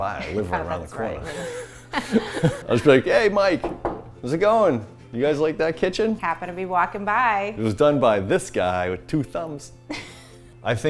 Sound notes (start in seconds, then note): 1.2 laughs; 3.6 knocks on table